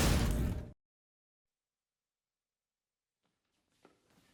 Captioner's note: silence